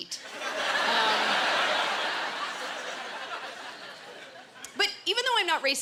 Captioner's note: laughter